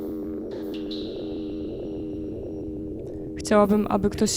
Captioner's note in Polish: Powtarzające się elektroniczne odgłosy kapania; Buczenie ustaje